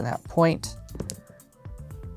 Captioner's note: dice rolling